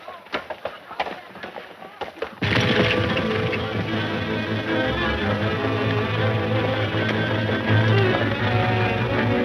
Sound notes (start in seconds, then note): 2.6 horses galloping; 5.8 exciting western music